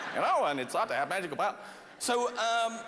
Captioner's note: laughter